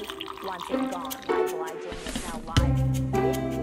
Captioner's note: pouring coffee; upbeat whimsical music; upbeat music